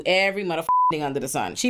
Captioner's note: beep